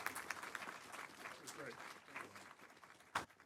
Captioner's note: applause